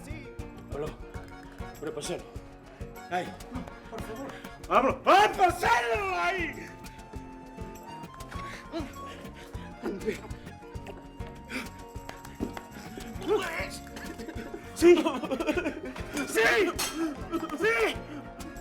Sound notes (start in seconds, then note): 0.9 Juan Carlos speaking in foreign language; 10.7 waiter gulping